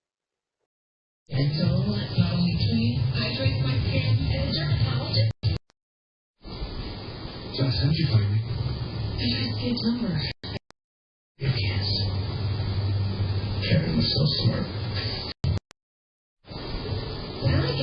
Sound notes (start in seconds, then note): 1.3 "General Hospital" plays in background